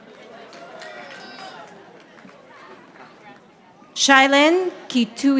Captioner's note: audience applauding